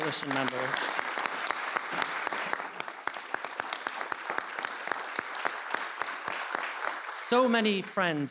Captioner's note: applause